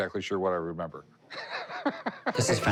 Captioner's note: laughs